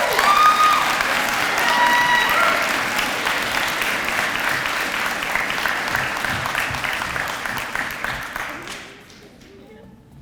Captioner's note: audience applause